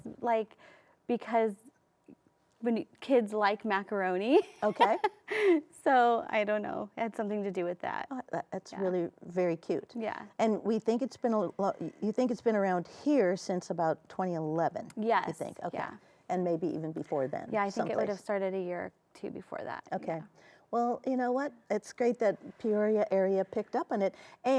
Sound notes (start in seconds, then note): 4.4 laughs